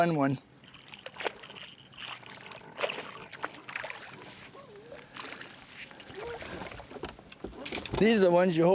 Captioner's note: splashing